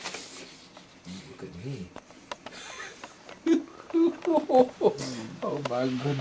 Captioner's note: laughing